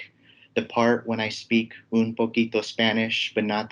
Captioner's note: speaks foreign language